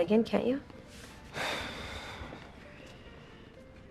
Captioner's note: SlGHS